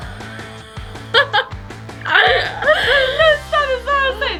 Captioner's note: laughs